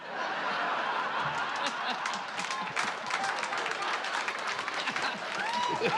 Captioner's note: applause